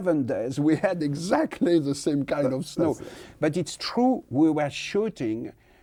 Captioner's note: laughs